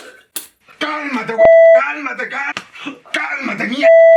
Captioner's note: pitido